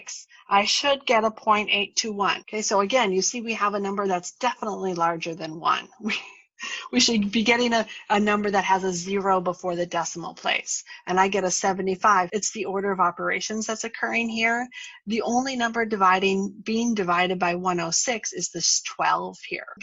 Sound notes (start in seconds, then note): 6.0 laughter